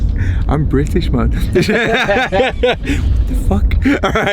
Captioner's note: laughs; group laughs; laughs